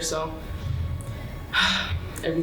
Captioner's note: sighs